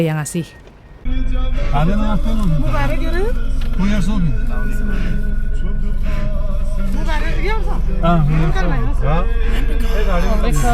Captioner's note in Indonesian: Berbicara Pakistan